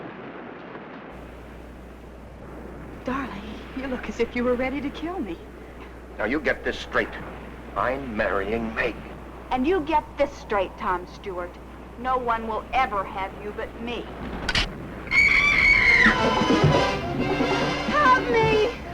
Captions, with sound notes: Darling, you look as if you were ready to kill me. - Now you get this straight. I'm marrying Meg. - And you get this straight, Tom Stewart. No one will ever have you but me. (rail snaps) (Vi screaming) (suspenseful music) Help me!